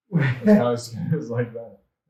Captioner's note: chuckles softly